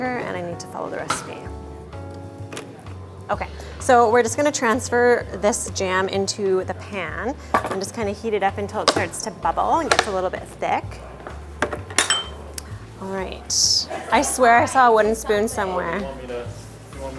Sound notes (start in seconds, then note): 11.6 glass clinks